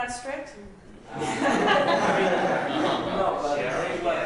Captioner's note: laughter